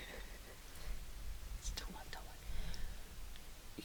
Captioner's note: laughing